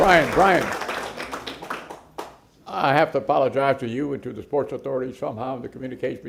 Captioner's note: applause